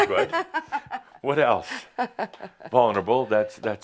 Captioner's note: she chuckles